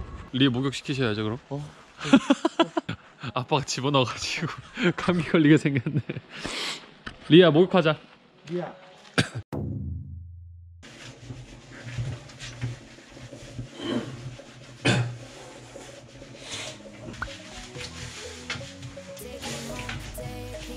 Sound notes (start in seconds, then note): 4.8 laughs